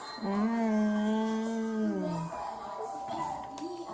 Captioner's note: mom hums